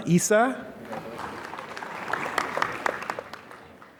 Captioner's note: applause